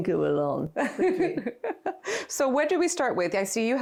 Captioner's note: both laughing